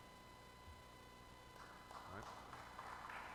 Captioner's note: applause